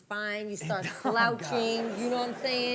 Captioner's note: Chanel laughing; laughs